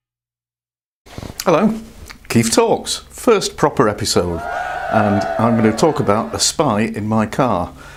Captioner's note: cheers